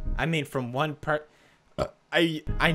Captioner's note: burp